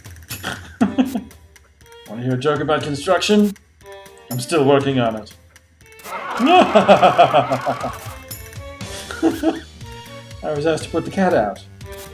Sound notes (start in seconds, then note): 0.2 laughs and snorts; 6.0 soldiers laugh; 6.1 laughs ostentatiously; 8.9 laughs